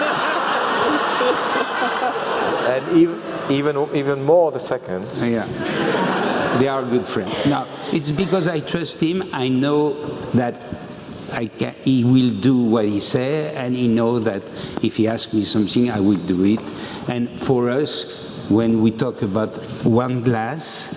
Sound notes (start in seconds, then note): 0.0 laugh; 5.6 laugh